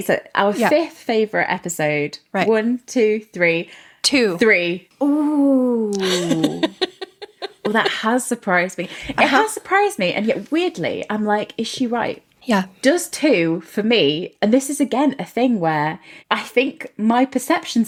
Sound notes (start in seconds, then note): 5.8 laughing